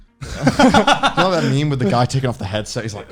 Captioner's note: laughing